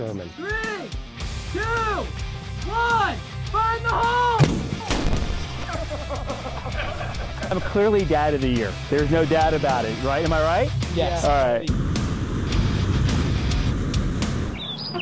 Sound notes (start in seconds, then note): 4.4 gunshot; 5.6 laughter